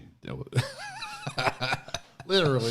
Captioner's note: laughing